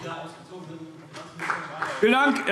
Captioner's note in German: Beifall AfD